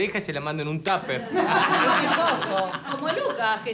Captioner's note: laughs